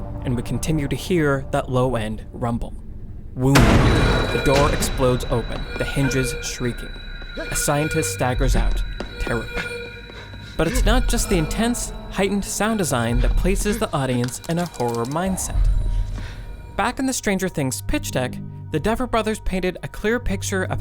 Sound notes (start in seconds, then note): 3.2 door explodes open